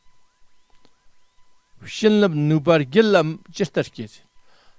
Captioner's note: tibetan